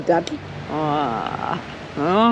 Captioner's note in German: Staunen, Lachen